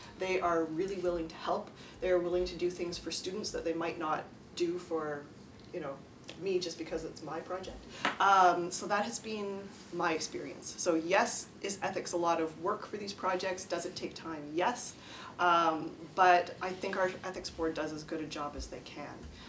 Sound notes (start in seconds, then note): none